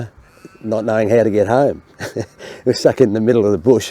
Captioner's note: laughs